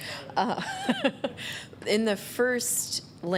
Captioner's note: laughter